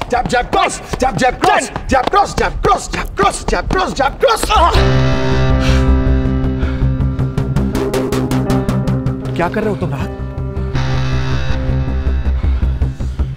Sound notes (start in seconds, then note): 5.0 Grunting; 5.6 Panting